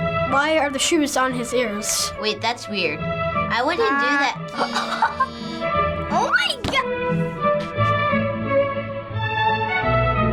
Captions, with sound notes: - Why are the shoes on his ears? - Wait. That's weird. I wouldn't do that. (laughs) - Nike. - Oh my go--